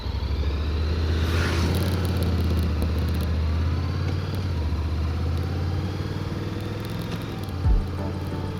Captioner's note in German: angenehmes Motorradgeräusch